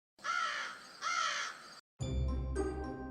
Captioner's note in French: Cri du corbeau